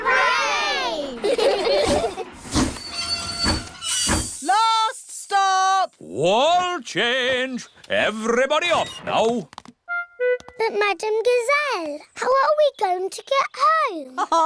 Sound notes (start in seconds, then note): 0.0 laugh; 2.1 train chugs